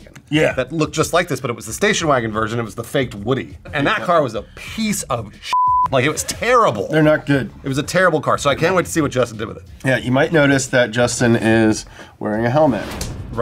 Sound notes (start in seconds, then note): 5.5 beeps